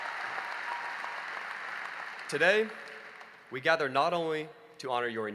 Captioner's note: applause